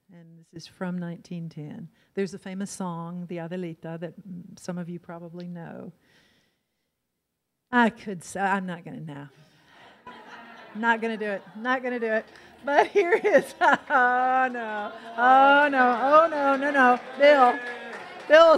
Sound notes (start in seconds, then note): 3.2 in foreign language; 9.7 audience laughs; 13.7 laughs; 14.0 audience cheers